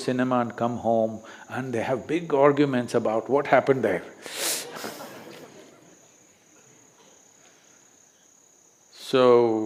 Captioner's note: laughter